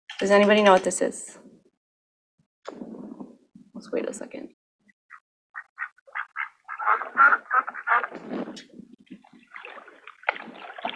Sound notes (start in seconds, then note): 7.2 squawking